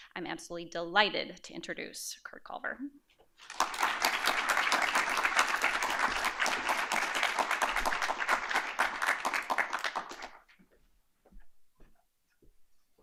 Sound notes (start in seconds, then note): 3.4 applause